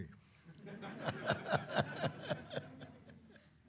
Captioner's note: laughter; chuckles